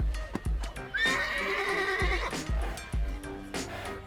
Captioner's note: horse neighing